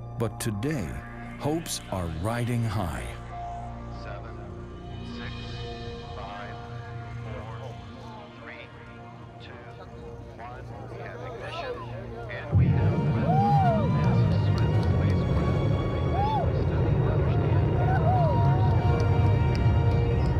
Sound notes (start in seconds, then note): 11.0 crowd murmuring; 13.9 rocket engines rumbling